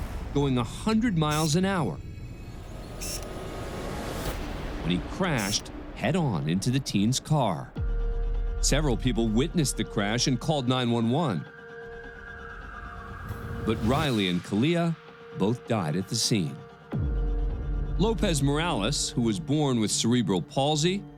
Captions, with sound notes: going a 100 miles an hour... [tense music] When he crashed head-on into the teens' car. Several people witnessed the crash and called 911. [siren wailing] But Riley and Kahlea both died at the scene. Lopez-Morales, who was born with cerebral palsy,